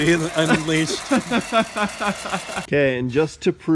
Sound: laughing

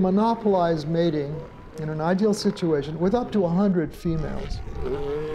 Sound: seal trumpets

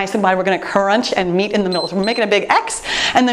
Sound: timer beeps

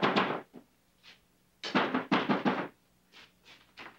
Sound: knock on door

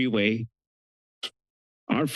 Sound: pause

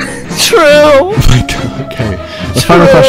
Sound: laughing

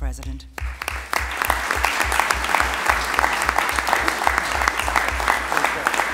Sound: applause

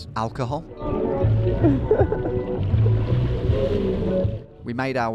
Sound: upbeat music; laughing

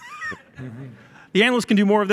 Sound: laughing

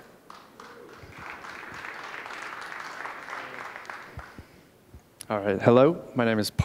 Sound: applause

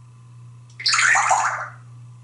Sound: water sound

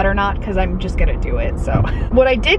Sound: laughing

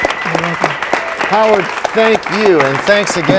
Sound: cheers and applause

